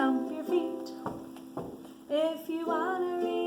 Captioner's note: feet stomping